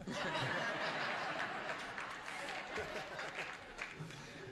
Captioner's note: laughter